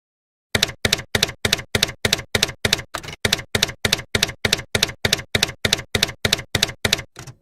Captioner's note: typewriter keys clacking